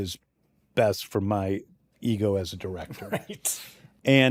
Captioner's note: chuckles